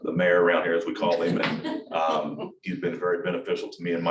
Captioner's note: attendees chuckling